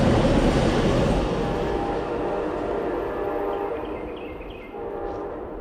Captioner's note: sound of train trailing off, the horn echoing through the area